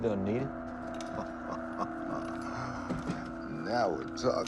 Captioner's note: Jackson laughs